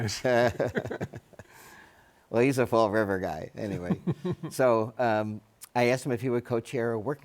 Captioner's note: laughs